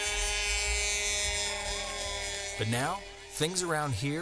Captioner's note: truck horn, cheering